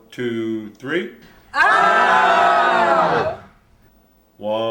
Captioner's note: people screaming